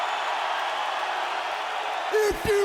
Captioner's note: audience cheering